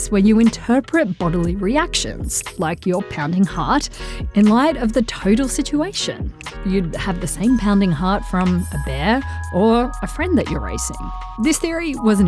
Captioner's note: pounding heart